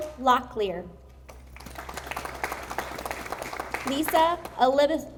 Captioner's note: audience applauding